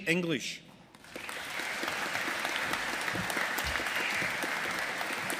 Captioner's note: audience applauding